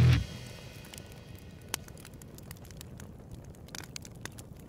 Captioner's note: upbeat music; fire crackling